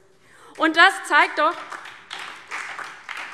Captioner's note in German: Beifall DIE LINKE und SPD